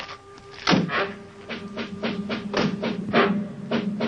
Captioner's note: car doors slamming; dramatic music